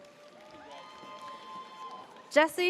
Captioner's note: audience cheers